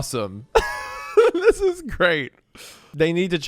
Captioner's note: laughs